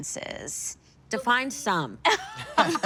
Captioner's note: all laugh